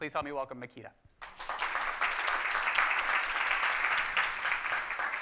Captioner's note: audience clapping